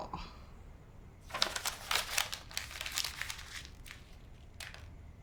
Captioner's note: paper rustling